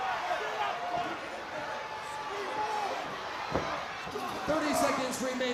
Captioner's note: crowd cheering